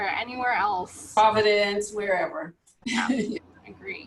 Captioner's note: laughs